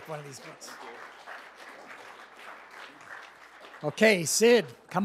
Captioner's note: applause